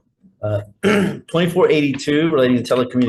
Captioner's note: clearing throat